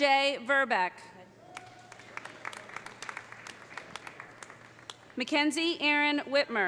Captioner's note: audience cheering; audience applauding